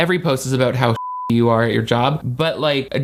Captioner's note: beep